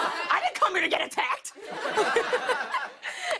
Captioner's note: laughs